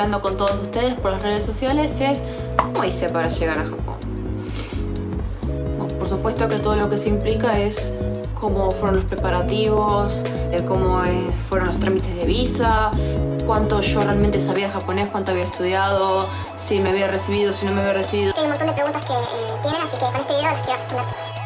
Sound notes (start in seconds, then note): 4.3 breaths in